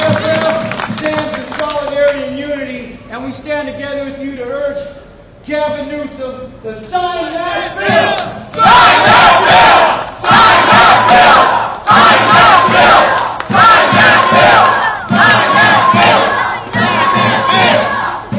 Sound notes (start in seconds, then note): 0.9 airhorn